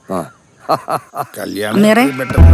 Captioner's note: laughing